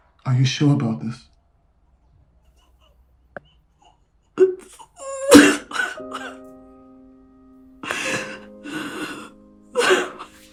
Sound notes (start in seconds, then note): 4.4 crying